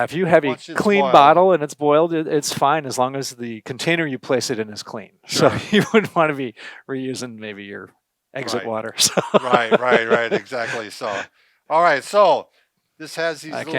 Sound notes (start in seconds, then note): 8.9 laughs